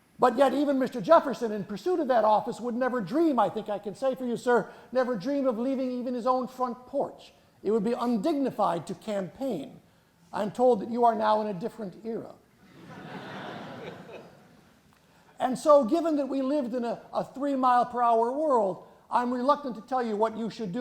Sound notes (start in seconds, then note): 12.6 chuckling